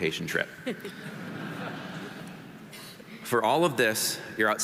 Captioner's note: audience laughing